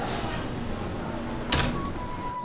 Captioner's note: door closing